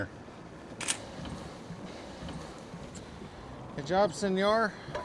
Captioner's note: camera shutter clicking